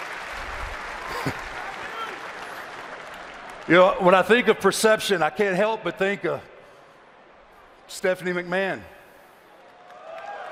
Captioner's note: applause